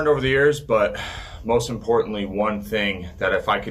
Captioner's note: sighs